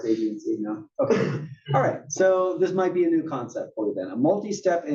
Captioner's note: cough